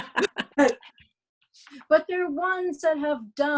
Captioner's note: laughter